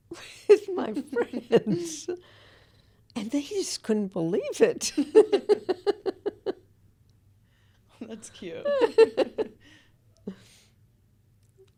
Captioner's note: laughter